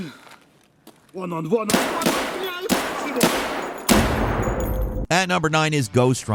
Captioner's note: yelling in foreign language; gunshots cracking